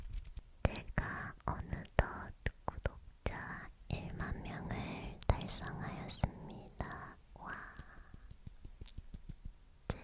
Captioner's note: clap